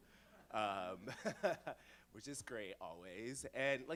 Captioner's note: laughs